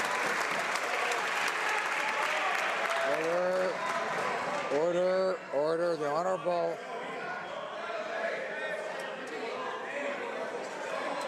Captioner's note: some Applause